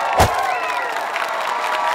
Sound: slap; audience cheering

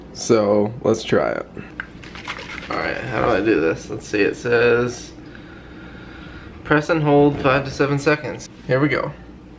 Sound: shaking can

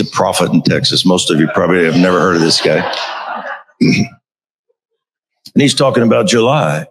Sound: crowd laughing

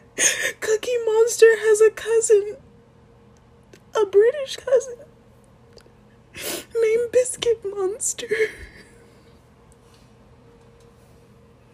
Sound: sniffle

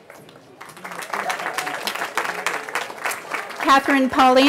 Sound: cheering

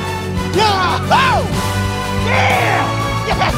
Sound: cheering and celebration

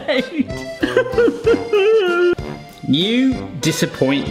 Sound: sobbing dramatically

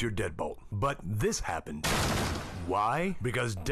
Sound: door loudly smashes

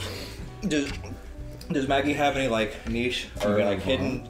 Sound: belch

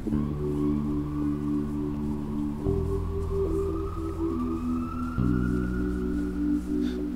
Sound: police siren

